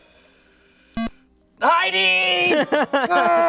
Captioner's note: electronic beep